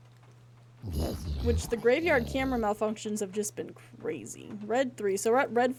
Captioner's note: guttural Noises